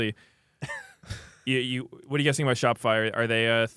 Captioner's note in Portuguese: risos